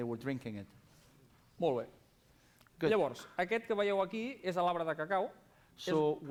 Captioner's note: non-english speech